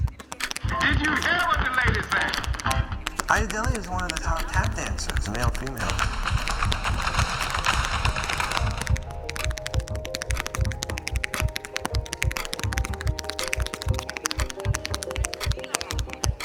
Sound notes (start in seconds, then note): 6.1 tapping